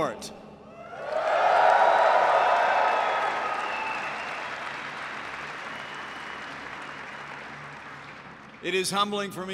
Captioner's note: applause